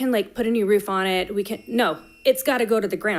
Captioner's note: timer beeping